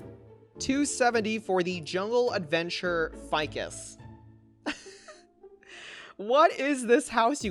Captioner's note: laughs